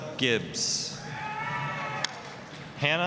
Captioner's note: applause, cheering